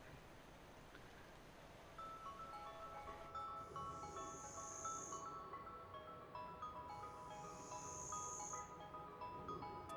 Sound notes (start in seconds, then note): 2.6 mysterious music; 5.6 insects and birds